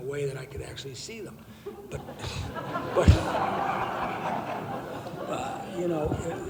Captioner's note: laughing